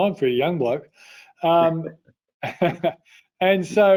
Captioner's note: laughing